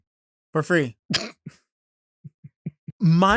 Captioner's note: laughs